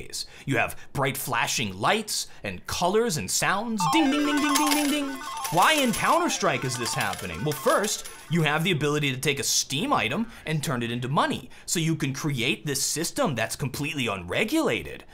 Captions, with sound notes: You have bright, flashing lights and colors and sounds. *Slot machine noises* Ding ding ding ding ding ding ding ding Why in Counter-Strike is this happening? Well first, you have ability to take a steam item and turn it into money so you can create this system that's completely unregulated.